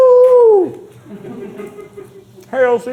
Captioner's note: crew laughing